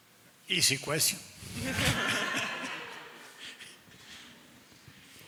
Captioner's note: attendees laughing